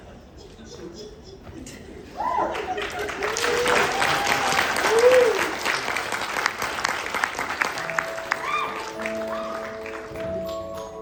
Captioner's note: applause